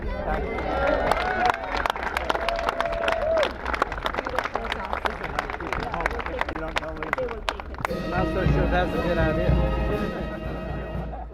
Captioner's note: applause